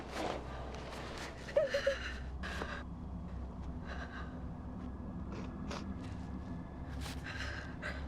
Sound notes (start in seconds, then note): 1.6 crying